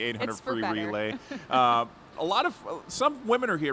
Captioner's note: chuckles